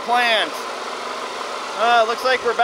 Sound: machinery engine revs

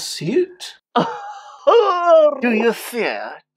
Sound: weeping

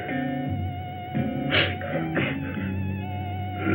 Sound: sniffs

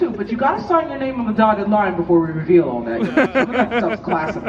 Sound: laughs

